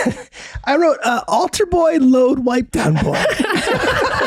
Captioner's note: laughs; all laugh